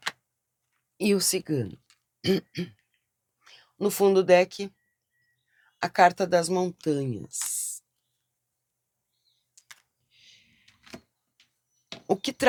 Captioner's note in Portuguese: limpando a garganta